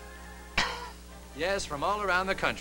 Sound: he splutters

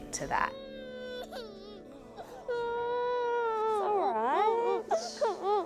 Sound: child crying; shushes

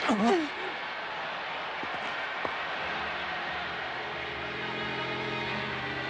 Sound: applause

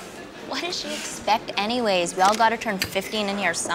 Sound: camera shutter clicks

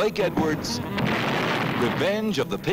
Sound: explosion

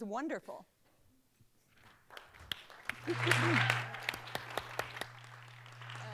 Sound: applause

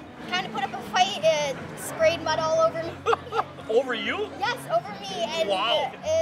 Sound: laughing

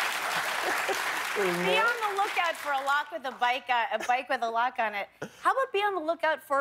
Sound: laughter and applause

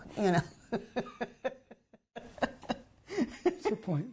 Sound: laughs

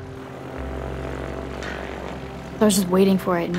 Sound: airplane rumbles

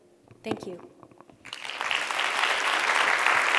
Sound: applause

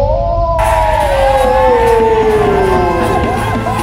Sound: cheering

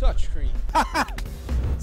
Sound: laughs

